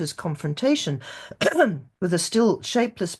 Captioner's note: clears throat